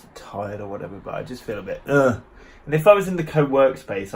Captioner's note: moans